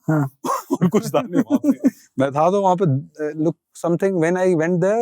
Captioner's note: speaking in Hindi